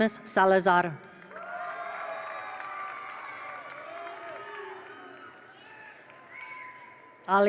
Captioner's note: attendees applaud; attendees cheer